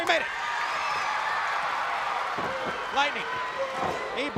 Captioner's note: crowd cheering